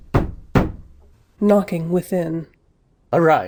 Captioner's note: _Knocking within._